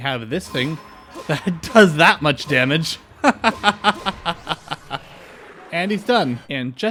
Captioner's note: laughter